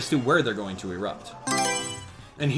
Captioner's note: Mario Selection Sound